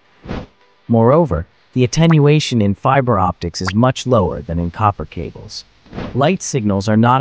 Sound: signal loss

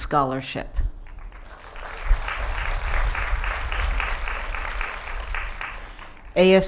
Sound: applause

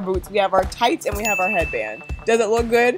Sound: bell dings

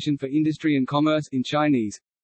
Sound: in Russian

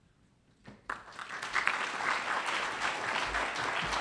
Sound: applause

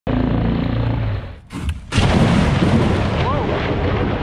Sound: engine running

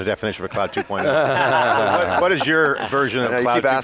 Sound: laughing

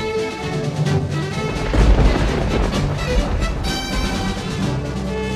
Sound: thunder cracking

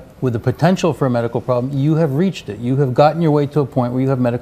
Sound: none

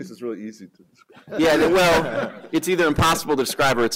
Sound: laughter

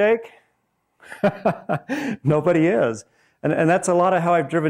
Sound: laughs

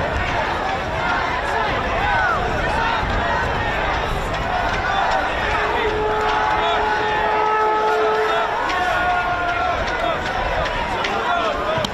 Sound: crowd noise

